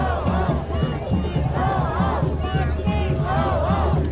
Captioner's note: crowd shouting